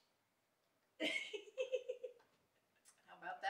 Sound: lady giggling

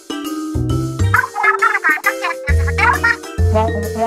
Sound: Inkling gibberish

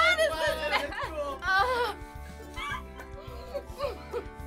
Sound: groaning; gagging; giggling

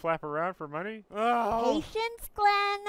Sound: groaning

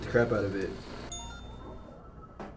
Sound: gentle beeping

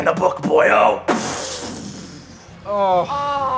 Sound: blasting

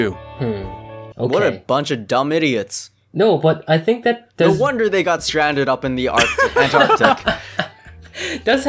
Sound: giggles

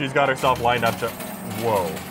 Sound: coins clinking

